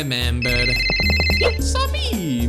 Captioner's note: phone ringing